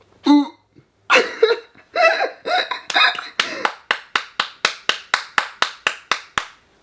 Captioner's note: laughing; laughing and clapping